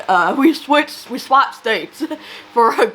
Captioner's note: laughs